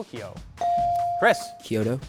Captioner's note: buzzer dings